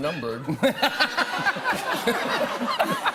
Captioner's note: laughter